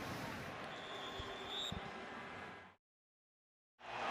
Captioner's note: whistle blows